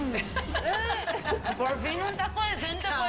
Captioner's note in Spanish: Risas